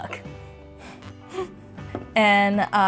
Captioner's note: laughs